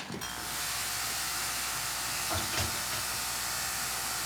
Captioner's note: razor buzzing